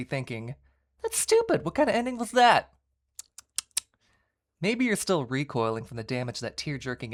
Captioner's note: tsk tsk